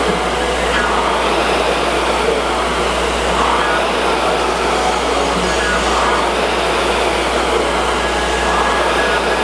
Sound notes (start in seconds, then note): 0.1 upbeat music; 5.3 rower roars